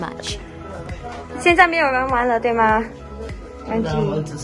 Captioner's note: in Mandarin